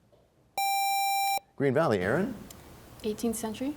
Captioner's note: none